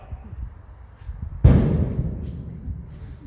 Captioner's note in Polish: huk wystrzału